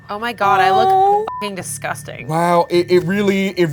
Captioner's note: beep